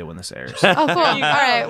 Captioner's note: laughing